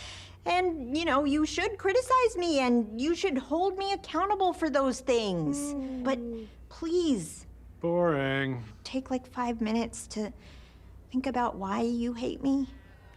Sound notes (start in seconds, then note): 5.6 yawns mockingly